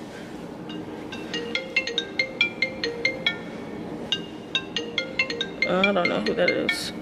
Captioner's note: phone rings